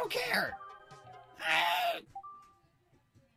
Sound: disgruntled noise

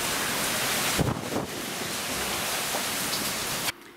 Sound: thunder

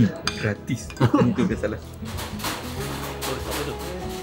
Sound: laugh

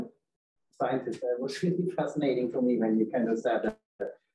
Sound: chuckles

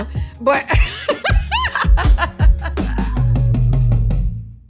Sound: laughter

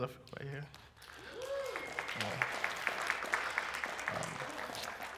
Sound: applause

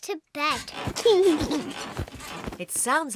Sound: laughs

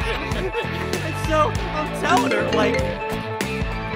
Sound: laughter; phone ring

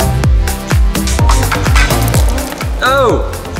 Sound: upbeat electronic music; hammering and dripping

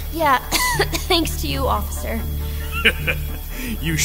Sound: coughs

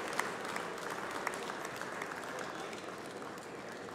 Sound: applause

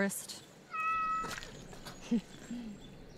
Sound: meows

